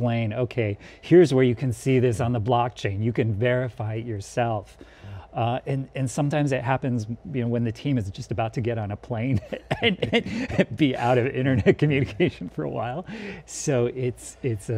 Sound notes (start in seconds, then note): 9.4 laughs